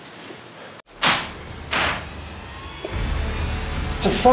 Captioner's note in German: klopfen